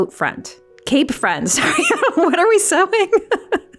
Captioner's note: laughs